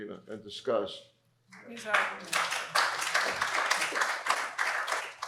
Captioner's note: applause